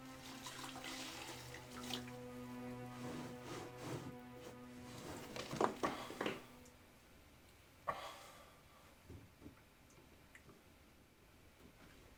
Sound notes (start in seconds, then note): 5.8 sighing